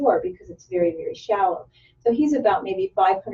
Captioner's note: none